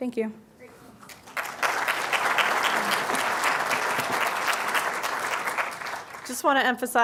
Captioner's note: applause